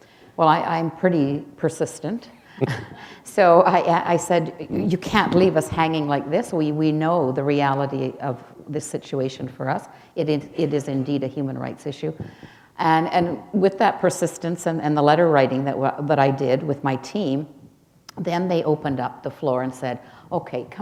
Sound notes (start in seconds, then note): 2.4 chuckle